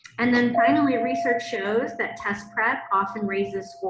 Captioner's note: bell rings